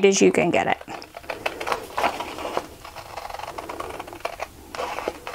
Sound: scissors cutting

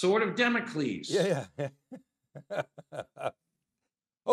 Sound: laughs

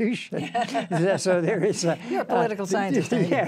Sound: laughing; laughs

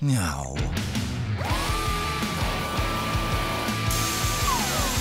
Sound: tools whirring

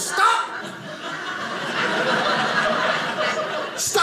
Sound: audience laughing

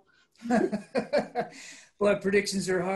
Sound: laughs

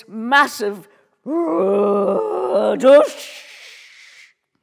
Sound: groaning; mimicking whooshing

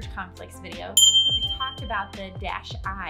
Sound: ding

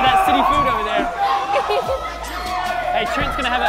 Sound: crowd cheering

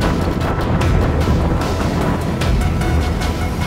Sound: fire roars

